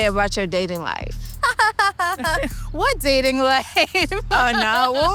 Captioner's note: laughs